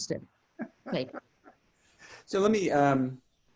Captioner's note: laughs